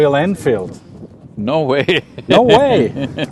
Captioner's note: laughs